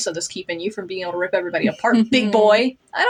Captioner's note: smug Chuckle